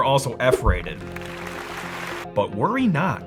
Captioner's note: audience clapping